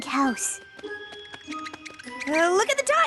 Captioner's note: squeak! Squeak!